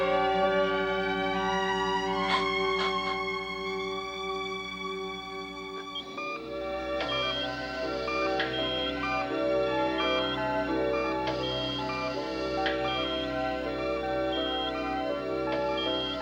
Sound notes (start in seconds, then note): 0.2 sobbing; 6.8 beeping